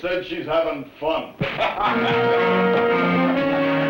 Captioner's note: laughter